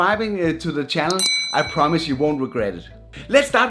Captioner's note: bell ringing